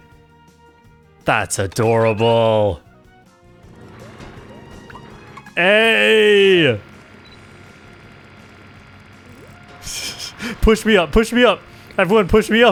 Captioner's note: laughs